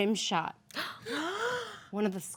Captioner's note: women gasp